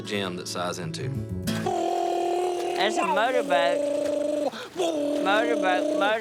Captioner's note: boating noise